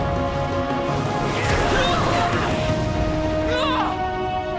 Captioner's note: grunting